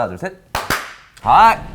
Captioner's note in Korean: 짝 짝